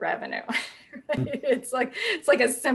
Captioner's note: chuckles